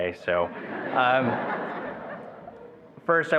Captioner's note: attendees laughing